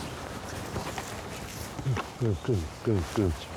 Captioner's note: Jeremy murmurs